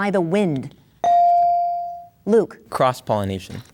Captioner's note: bell dings